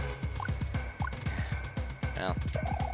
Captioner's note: sigh